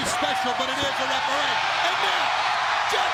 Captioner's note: crowd cheering